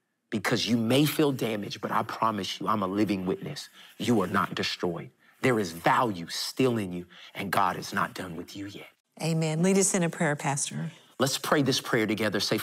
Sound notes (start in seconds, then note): none